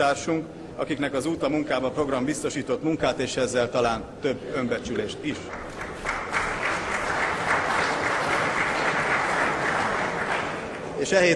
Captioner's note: Applause in the ranks of the MSZP